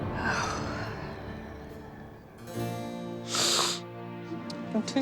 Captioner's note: sighs; sobs